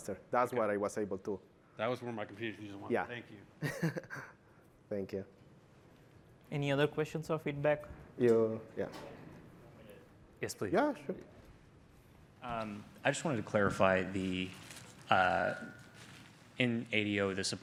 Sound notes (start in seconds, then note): 3.6 laughter